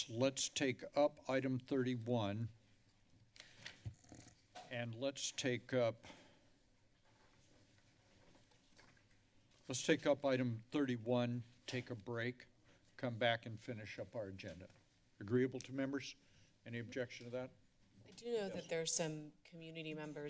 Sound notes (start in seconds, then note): none